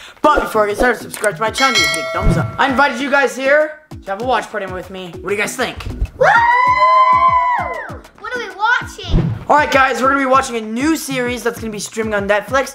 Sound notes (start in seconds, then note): 6.2 all cheer